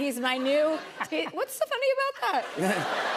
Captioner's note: laughter